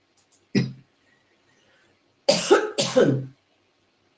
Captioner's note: coughing